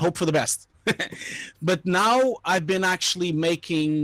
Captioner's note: laughing